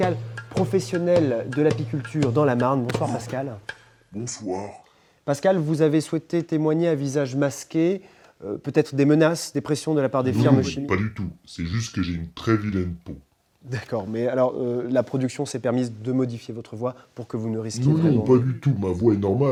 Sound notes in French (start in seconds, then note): 3.8 voix très rauque